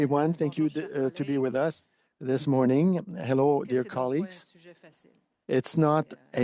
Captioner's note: speaking French